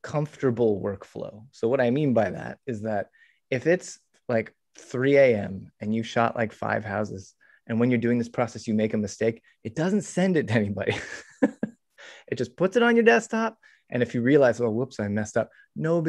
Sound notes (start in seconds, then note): 10.9 chuckles